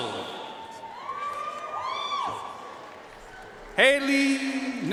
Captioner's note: audience cheering and applauding